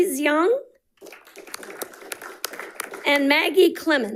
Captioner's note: audience applauding